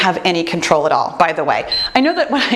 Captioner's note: timer beeps